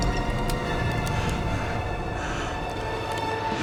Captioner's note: wine glugging; pistol cocks; dark intense music